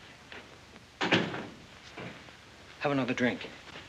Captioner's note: door closes